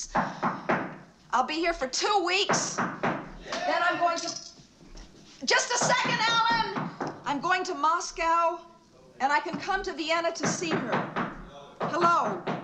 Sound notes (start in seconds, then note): 2.7 knocking Continues; 10.1 knocking Continues